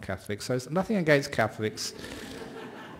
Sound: laughter

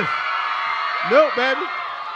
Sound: crowd cheering

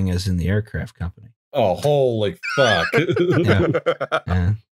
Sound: laughter

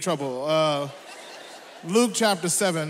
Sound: audience laughs

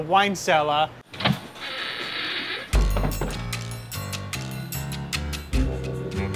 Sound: eerie door creaking; intense music

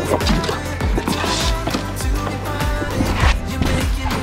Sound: equipment banging

